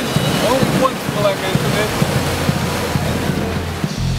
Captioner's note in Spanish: fundidos de audio